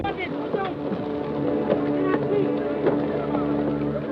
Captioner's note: men yelling